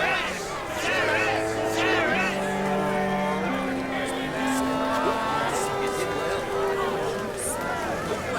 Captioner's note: horns sound off